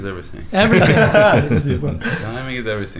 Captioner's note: all laugh